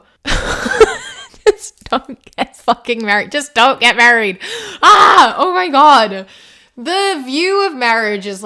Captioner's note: laughs